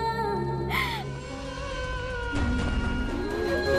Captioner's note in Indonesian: menangis